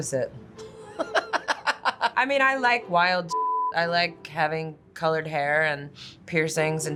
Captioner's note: laughs